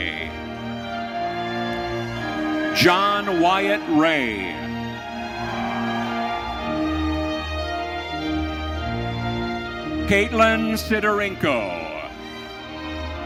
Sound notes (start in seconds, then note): 5.4 audience cheering